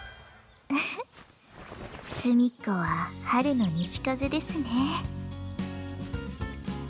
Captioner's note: giggle